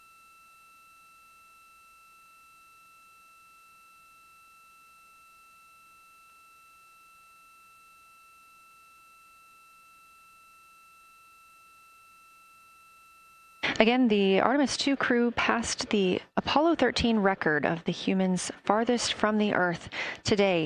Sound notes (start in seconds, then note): 3.2 silence